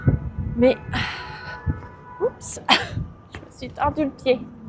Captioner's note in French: soupir